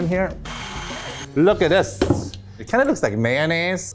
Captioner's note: mixer buzzes